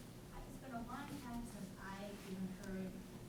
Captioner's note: voiceover